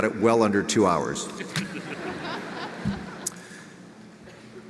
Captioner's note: audience laughs